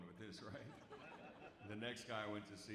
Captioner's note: audience laughs